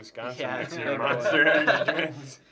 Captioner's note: laughs